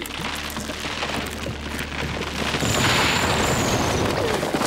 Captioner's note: cracking